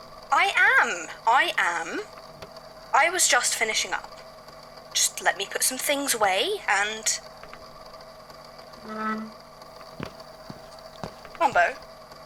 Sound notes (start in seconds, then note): 9.8 chair pushing out, followed by footsteps